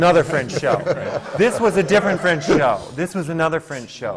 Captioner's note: laughter